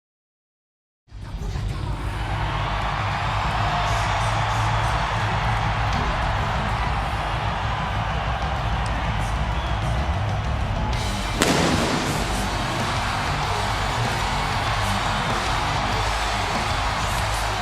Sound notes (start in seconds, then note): 1.0 crowd cheering; 1.0 upbeat music; 11.2 upbeat music continues; 11.3 fireworks exploding